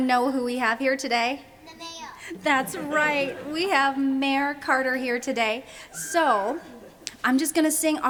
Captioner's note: crowd laughs